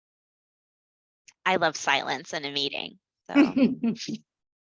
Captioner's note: laughter